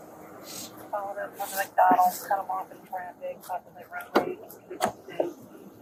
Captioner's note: radio chatter